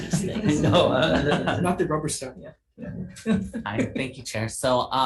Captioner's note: laughs